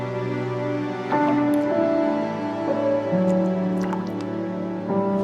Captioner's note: water dripping